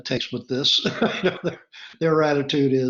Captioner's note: laughs